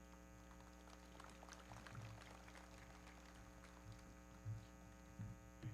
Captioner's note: everybody clapping